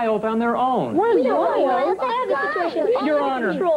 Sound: arguing

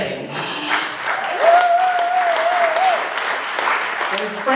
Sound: applause

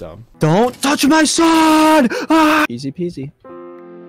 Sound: screams

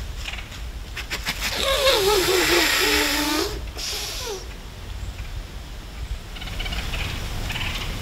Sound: buck grunts; buck snort wheeze

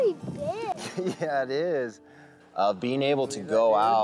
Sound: laughs

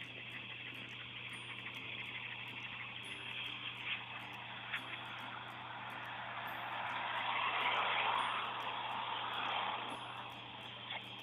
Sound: road noise & bugs buzzing

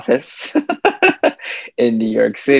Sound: laughs

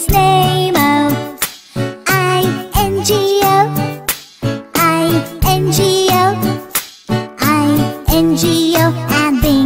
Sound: clap

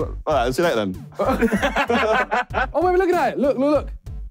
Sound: group laughing

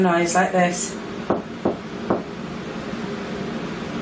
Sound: knocks

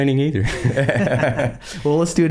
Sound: laughing

